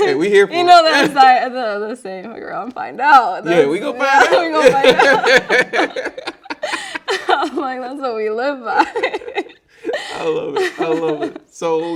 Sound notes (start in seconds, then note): 4.2 both laughing